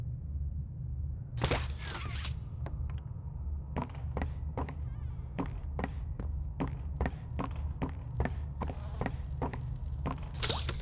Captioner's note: footsteps